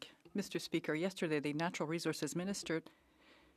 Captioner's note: speaking French